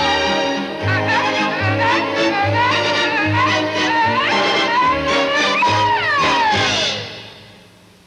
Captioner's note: crowing